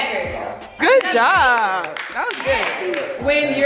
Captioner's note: guests applaud